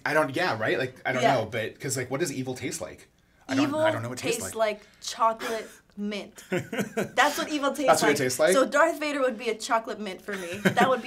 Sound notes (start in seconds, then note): 6.4 laughs; 10.4 laughs